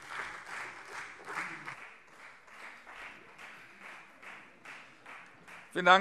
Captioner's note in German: Beifall Freie Demokraten